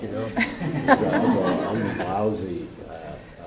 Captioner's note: laughter